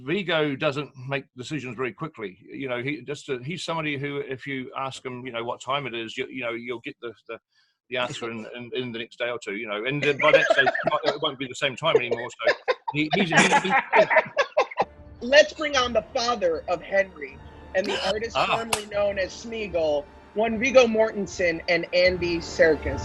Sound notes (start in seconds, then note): 13.6 group laughs